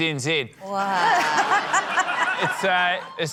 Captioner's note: laughter